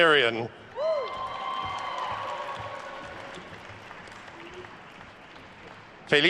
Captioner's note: attendees cheering and applauding